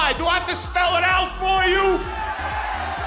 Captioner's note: crowd cheering